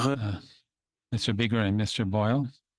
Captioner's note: speaking French